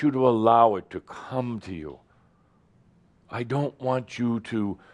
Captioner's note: none